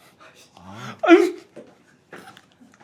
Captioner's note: sobbing